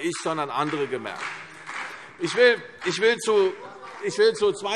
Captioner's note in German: Beifall CDU und vereinzelt BÜNDNIS 90/DIE GRÜNEN